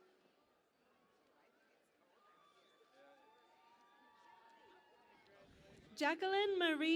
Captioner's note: cheering and Applause